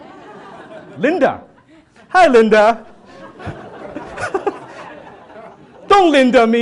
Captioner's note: audience laughs